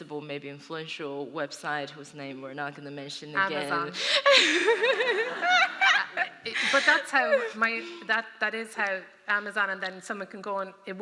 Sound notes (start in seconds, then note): 4.2 laughter